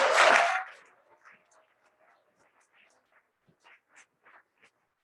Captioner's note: cheering and applause